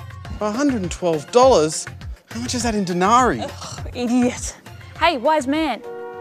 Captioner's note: scoffs